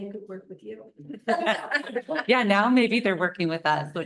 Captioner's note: laughter